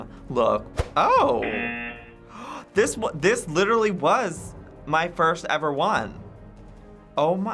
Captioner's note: gasps